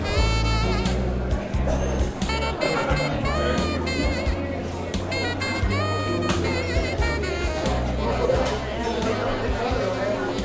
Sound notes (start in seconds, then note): 2.8 bluesy piano music; 2.8 diner sounds